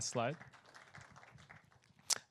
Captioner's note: applause